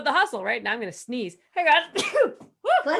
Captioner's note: sneezing